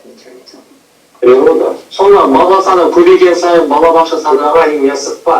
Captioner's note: speaking foreign language